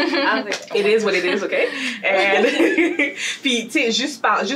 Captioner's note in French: rires